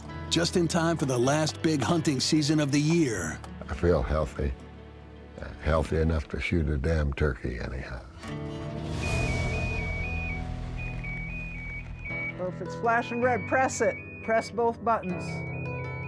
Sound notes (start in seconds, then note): 8.9 alarm sounding